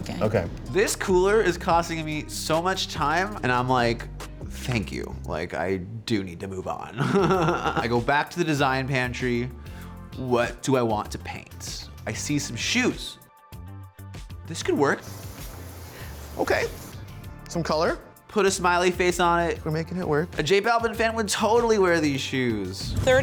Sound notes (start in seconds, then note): 7.0 laughs